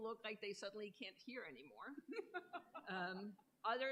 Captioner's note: laughter